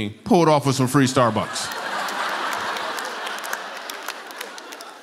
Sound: laughter

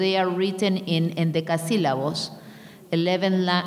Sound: speaking in a foreign language

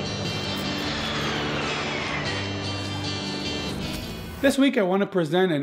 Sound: airplane engines buzzing

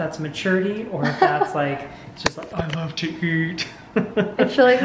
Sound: laughs

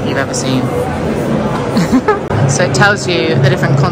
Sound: people chattering; giggling

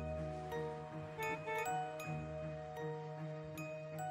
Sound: horn honking

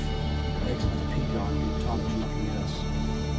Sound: indistinct chatter

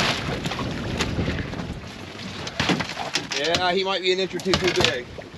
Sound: fish splashing; fish thrashing

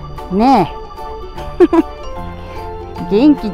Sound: laughs

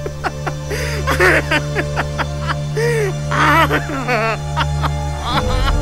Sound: cries

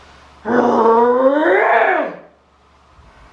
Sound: snarls

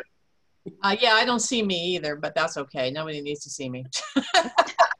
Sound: several voices laughing

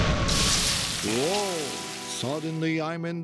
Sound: simmering

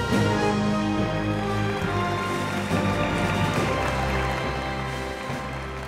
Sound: music & Applause

